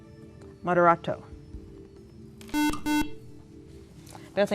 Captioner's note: beeping